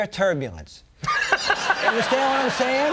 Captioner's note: Conan and audience laughing